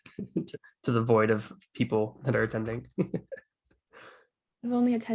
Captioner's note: chuckles